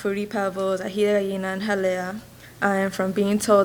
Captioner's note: speaks a foreign language